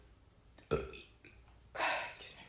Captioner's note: burps